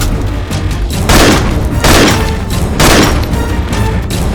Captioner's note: gunshot